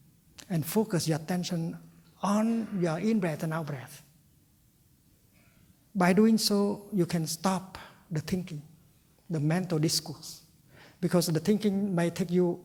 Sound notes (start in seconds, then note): none